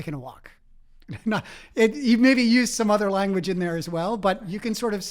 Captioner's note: laugh